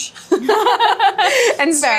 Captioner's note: both laughing